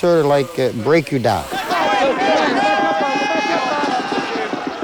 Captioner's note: screaming and shouting